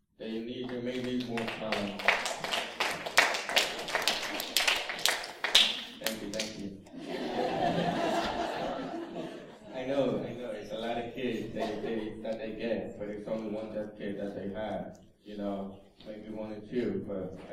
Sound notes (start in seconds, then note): 0.6 applause; 6.9 laughter